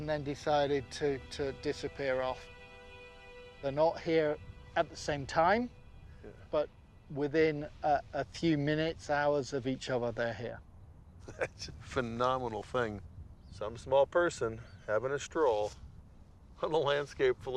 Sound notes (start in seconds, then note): 11.2 chuckling